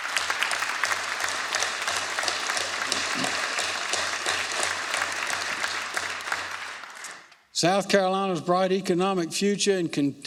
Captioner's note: applause